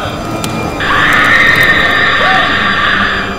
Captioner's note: Leah moaning; screaming